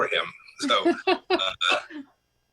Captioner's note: laughter